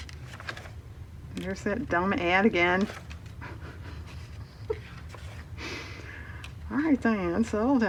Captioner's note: laughs